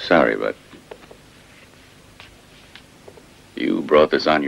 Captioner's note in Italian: none